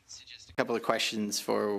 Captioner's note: speaking French